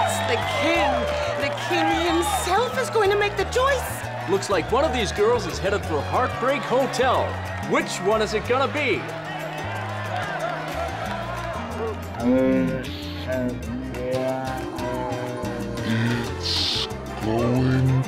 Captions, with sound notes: It's the king, the king himself is going to make the choice! - Looks like one of these girls is headed for heartbreak hotel. Which one is it gonna be? (Coach slow motion speaking) - It's going to be...